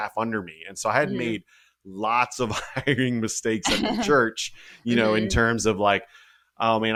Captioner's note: laugh